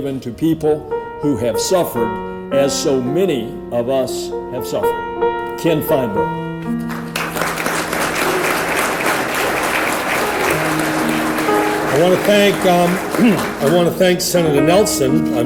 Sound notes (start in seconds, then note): 6.8 audience applauds